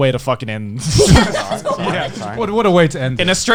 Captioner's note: all laughing